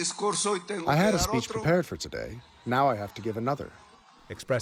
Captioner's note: through translator